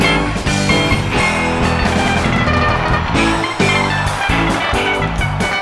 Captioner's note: crowd cheering